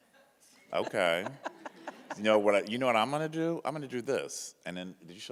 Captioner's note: laughs